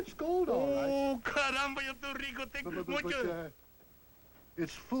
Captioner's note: non-english speech